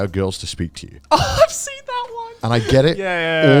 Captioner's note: chuckles